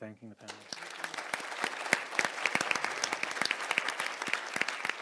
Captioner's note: everyone applauding